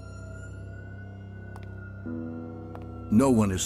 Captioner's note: footsteps